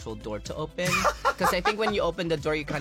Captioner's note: laughs